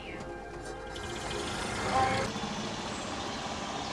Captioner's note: engine rumbling